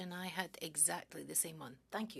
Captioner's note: speaking in French